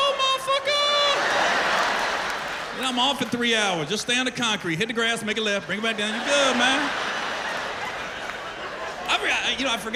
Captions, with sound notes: "Are you serious?" "Go, motherfucker. -[laughter] -I'm off in three hours. Stay on the concrete. Hit the grass, make a left, bring it back down. You good, man."